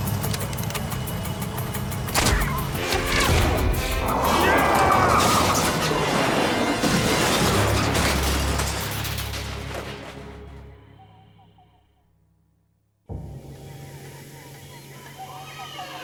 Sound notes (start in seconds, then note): 0.3 cocking; 4.4 yelling; 5.4 brakes screeching